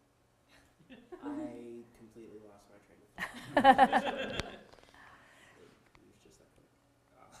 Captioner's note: audience laughter